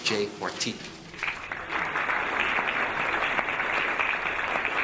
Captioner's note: audience applauding